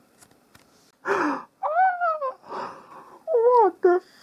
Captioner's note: wilting scream; gasp